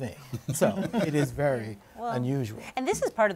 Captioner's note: laughter